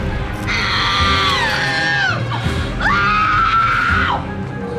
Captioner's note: Cassandra shrieks